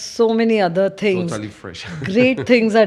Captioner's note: laughs